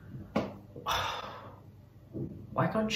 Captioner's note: sighs